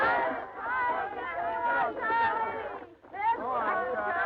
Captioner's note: chatter